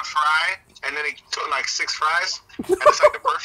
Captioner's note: laughing